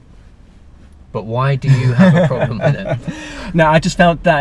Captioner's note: laughs